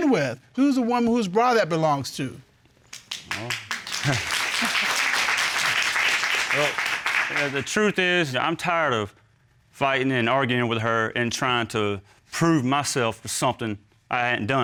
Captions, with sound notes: Who's the one whose bra that belongs to? Well... [chuckles] Well, yeah, the truth is, you know, I'm tired of... fighting and arguing with her, and trying to prove myself for something I hadn't done.